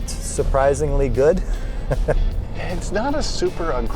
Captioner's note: laughs